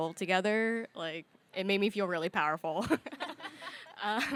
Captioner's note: chuckles; audience laughing